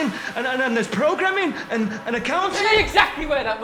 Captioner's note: stammers